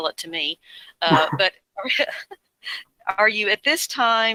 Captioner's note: laughs